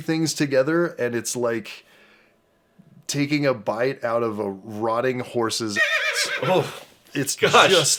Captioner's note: neigh